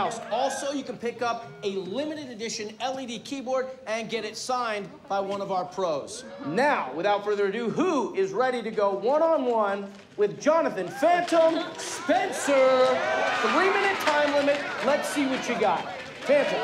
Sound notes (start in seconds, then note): 12.3 crowd cheering